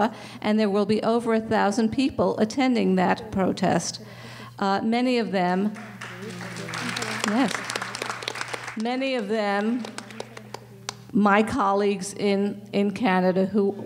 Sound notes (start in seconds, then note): 5.7 applasue